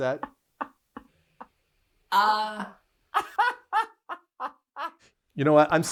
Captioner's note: laughing